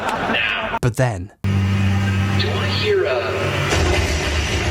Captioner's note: engine rumbling